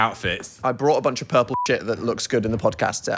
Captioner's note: beep